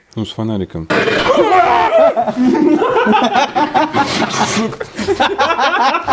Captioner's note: sound of collective fear; laughter and cursing